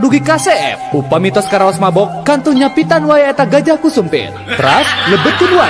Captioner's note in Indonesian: tertawa